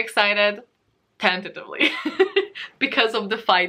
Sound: laughs

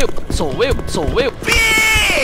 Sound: shifting x5

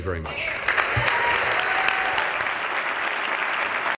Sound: applause

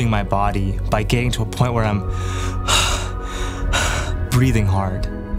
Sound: heavy breathing

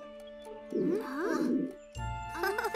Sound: stomach growling; chuckling

